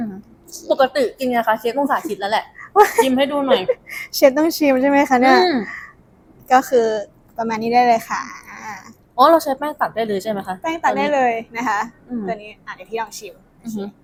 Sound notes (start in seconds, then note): 1.8 laughs